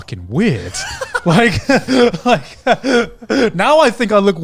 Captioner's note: laughing